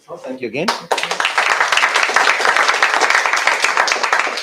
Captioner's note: applause